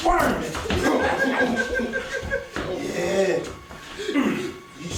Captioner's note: evil laughter and giggles